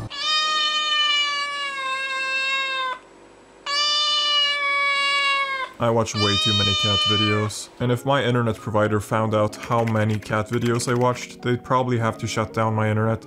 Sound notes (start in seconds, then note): 3.5 meeeoooooooooow